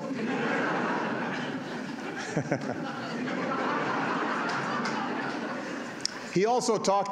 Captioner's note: laughter